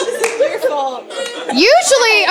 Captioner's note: laughter